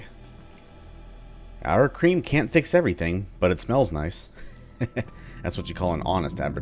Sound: chuckles

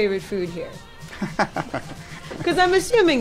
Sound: laughing

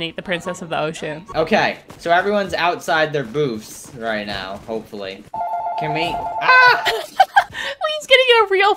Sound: phone rinning

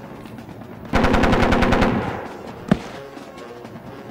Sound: gun fires

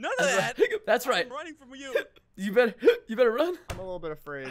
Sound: hiccups

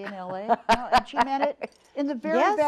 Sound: laughs

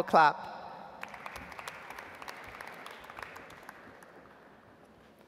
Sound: audience applauds

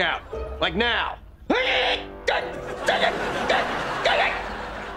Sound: grunting

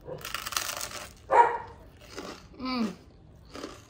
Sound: toast crunching

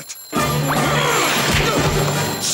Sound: grunting

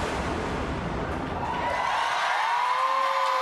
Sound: audience applause

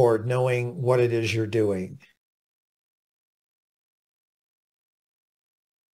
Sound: A pause

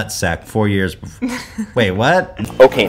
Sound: giggles

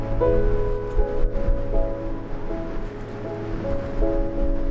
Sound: wind blowing

